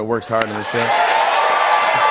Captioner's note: cheers and applause